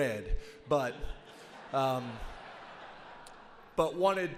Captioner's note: audience laughs